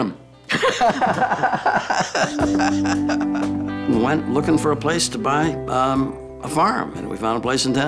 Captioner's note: laugh